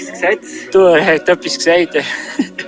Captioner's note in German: lacht